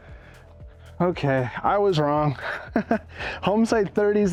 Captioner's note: laughs